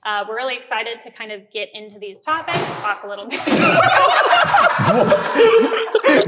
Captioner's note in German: Tür schlägt zu